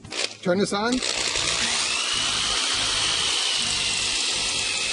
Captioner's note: drill whirring